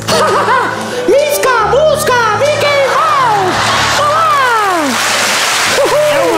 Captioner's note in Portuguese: imita Mickey